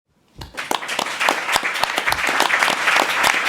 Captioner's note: applause